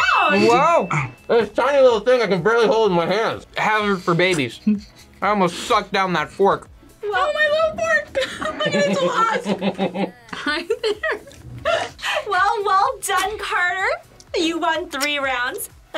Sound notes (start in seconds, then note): 8.0 laughs